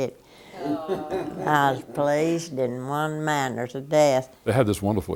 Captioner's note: laughter